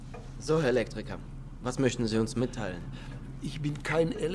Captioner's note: speaking German